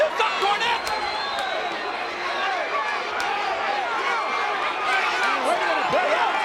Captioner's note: applause